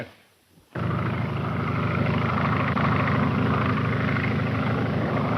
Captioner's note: plane engine rumbling